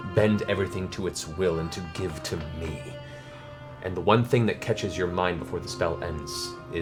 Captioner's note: voices deepens